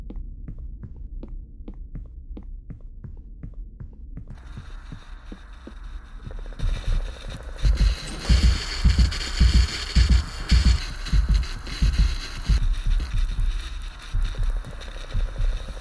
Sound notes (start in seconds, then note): 4.9 static noises; 7.6 louder static